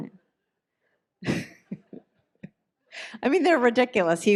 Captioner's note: laughs